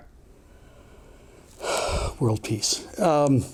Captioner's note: sighs